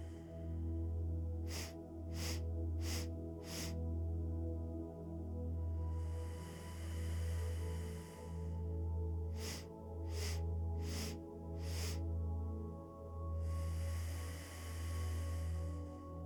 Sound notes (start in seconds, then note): 0.1 inhales four sharp breaths through the nose; 5.0 exhales deeply through the nose; 9.0 inhales four sharp breaths through the nose; 11.6 exhales deeply through the nose